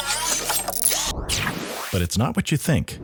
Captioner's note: machine noises